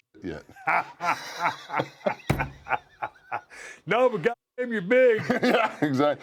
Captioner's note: laugh